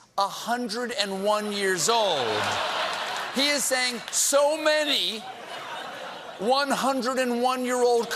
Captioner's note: laughter